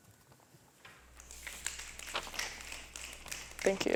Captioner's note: snapping